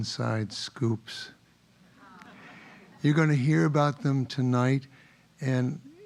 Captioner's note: laugh